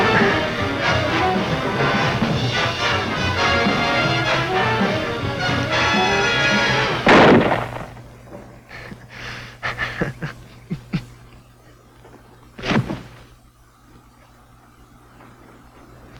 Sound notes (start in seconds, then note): 0.0 dramatic music; 7.0 gun fires; 9.6 Preacher laughing; 12.5 body falling